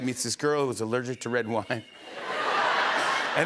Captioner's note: laughter